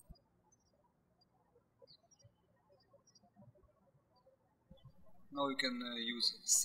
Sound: birds chirping

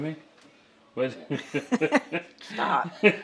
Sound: laughing

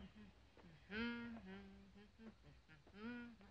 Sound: humming

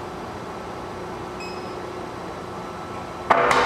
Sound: beeping

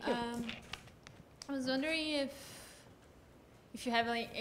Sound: voiceover

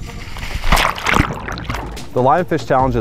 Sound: water splashing

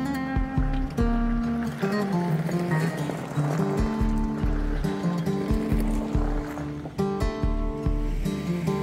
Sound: upbeat music; water rushing; upbeat music

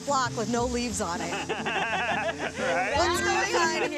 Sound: laughter

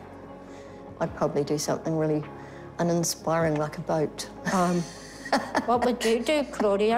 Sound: laughs

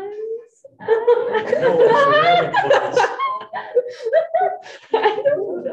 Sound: students laughing

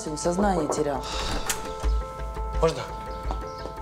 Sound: door opens

